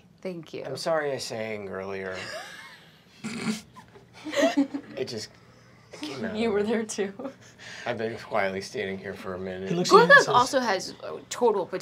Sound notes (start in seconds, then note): 2.1 laughter; 3.2 giggling